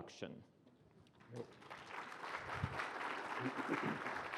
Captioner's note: applause